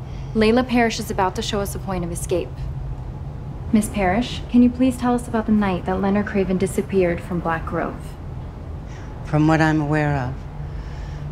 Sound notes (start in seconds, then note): none